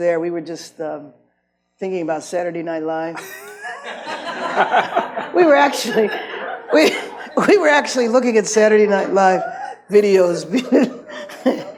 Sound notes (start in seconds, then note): 3.2 audience laughs; 6.8 laughs